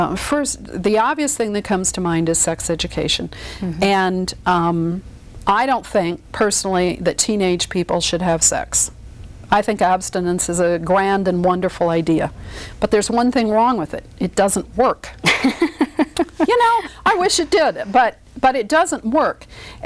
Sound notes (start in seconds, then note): 15.2 laughs